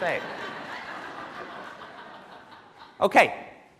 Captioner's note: laughing